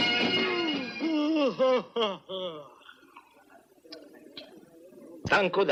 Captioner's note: yawning